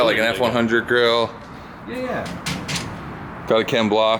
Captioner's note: banging on car part